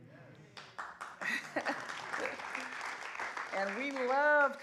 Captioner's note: applause